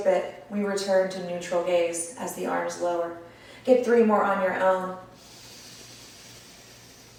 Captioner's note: audible breath